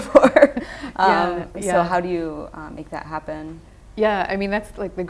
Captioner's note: laughing